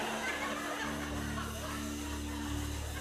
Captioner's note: audience laughter